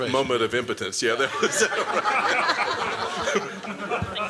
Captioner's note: laughter